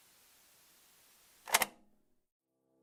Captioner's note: click